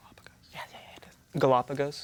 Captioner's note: whispers